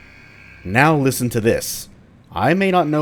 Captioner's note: klaxon alarm blaring